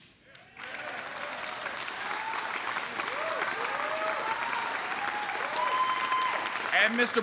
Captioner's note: applause